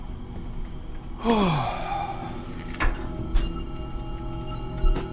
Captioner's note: Jack sighs